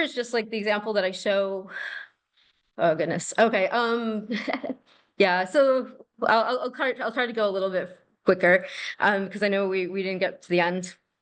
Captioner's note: laughter